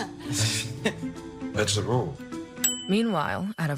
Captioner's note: laugh awkwardly